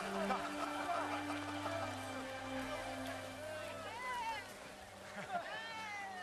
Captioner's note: laughter